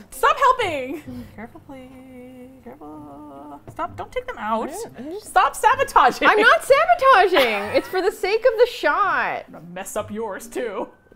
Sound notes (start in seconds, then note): 1.4 laughs; 4.7 stuttering; 7.2 laughs